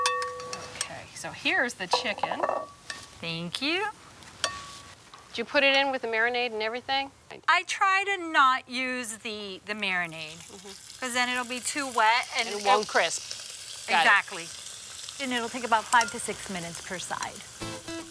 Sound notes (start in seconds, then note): 10.5 chicken sizzling